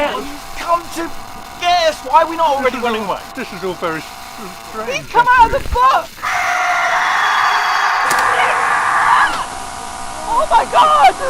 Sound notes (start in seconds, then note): 6.2 john screams!; 8.4 screaming